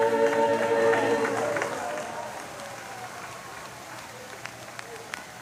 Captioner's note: applause